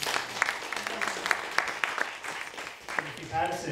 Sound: audience applauding

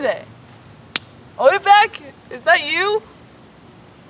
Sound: twig snaps

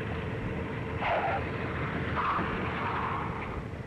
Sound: tire screeching

